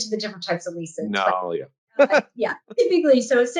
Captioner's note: laughs